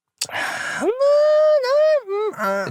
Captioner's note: disagreeing noises